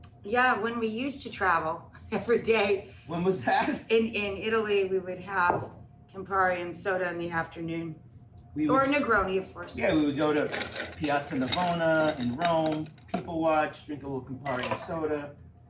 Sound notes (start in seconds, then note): 3.4 laughing